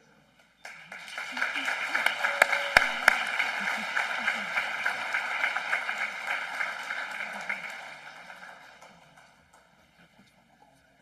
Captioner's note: applause